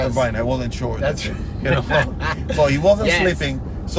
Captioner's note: laughter